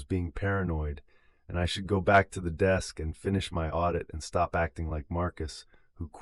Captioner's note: breath